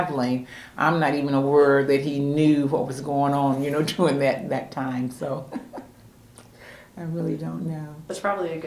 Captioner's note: laughs